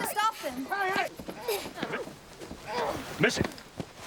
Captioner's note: grunting